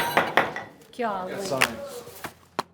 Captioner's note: gavel bangs